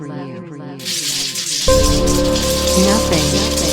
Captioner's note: electricity crackling; voice echoing